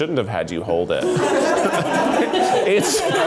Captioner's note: offscreen laughing